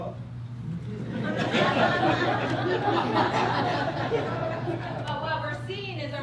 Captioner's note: crowd laughter